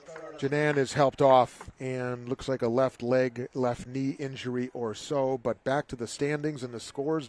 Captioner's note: applause